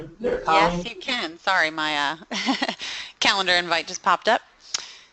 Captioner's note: chuckling